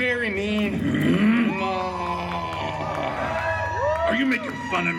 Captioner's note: guests cheering